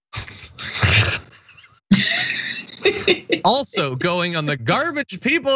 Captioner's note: laugh